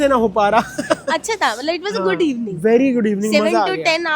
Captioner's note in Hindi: हंसी